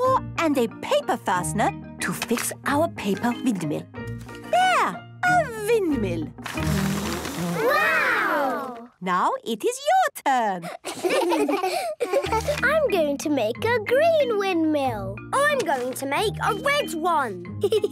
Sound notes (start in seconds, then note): 6.5 blows